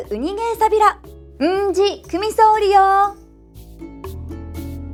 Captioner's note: in Okinawan